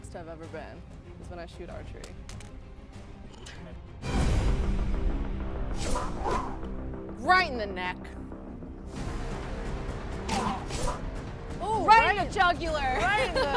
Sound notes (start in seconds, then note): 4.2 intense music; 5.6 arrow whooshing